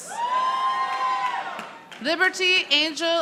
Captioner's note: audience applauding